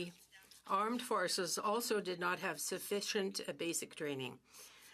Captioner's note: speaking French